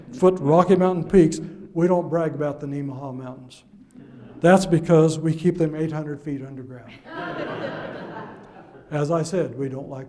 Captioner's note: audence laughs